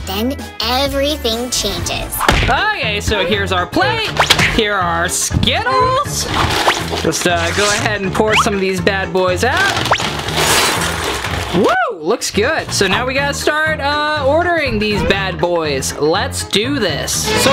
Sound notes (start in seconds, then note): 10.3 glass smashing